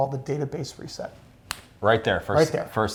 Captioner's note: snaps fingers